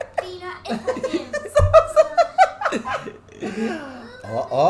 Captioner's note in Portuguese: gargalhadas